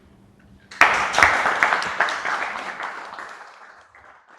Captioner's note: audience clapping